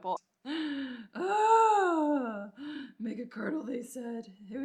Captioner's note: groans